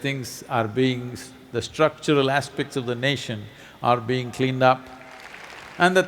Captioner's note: applause